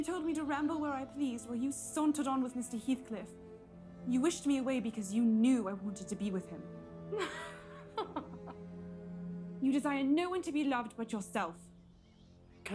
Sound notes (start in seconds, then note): 7.1 laughing